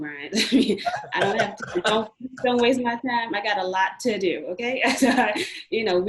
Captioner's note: murmurs